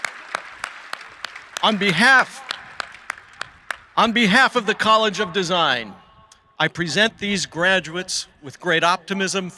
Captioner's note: applause